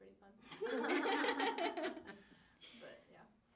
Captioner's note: all laughing